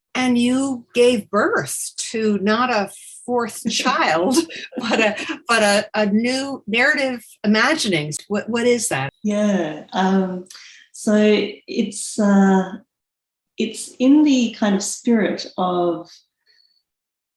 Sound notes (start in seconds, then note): 4.2 laughs